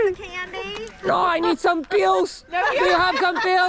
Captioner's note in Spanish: Con voz de anciano